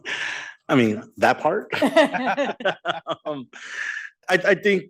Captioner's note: laughing